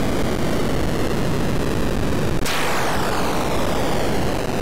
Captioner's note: boom